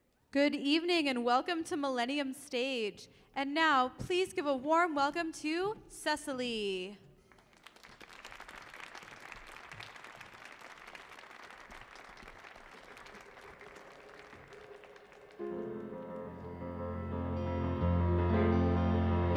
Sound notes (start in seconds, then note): 7.5 audience clapping; 15.1 orchestral music begins